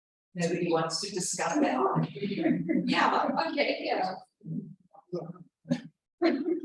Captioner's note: chuckles